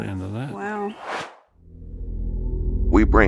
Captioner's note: swoosh